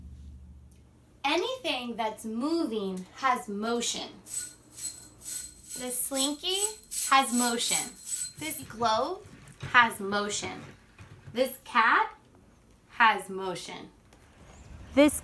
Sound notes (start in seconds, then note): 4.2 loud clinking